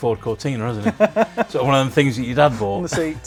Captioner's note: laughs